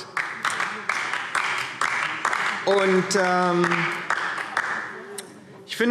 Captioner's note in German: Beifall DIE LINKE